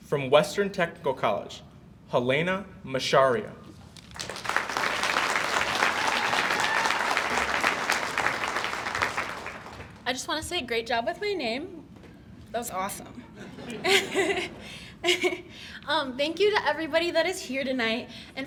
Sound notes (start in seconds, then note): 4.0 audience applauds